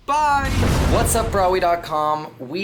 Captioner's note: lightning zapping